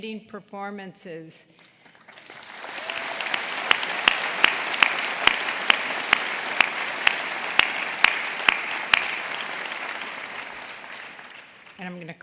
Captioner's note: applause